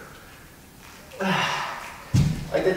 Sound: breath out

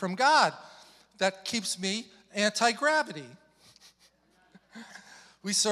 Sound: chuckles

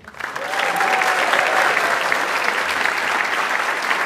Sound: audience applauds

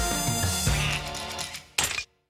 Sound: quacks

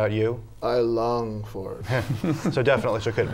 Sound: laughter

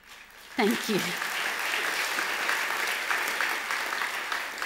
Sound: audience applause

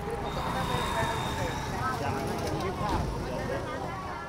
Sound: street noise

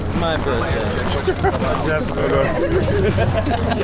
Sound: laughs

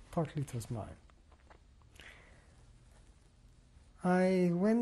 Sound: pauses for 3 seconds

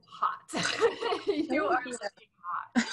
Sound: laughs

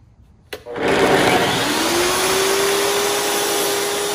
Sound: tile saw revving

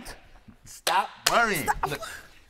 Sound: claps

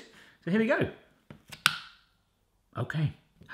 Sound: snap

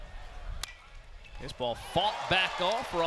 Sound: ball hitting bat

